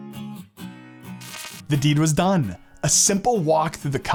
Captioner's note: electric buzzing; upbeat music